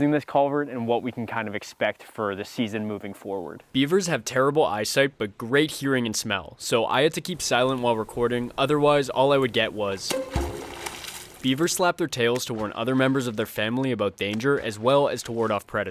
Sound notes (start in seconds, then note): 10.1 tail Slaps